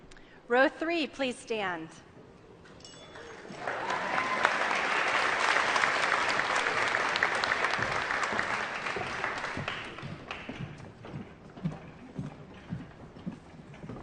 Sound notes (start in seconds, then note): 3.1 applause